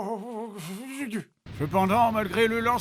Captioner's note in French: gémissement